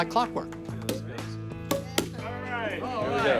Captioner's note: corks popping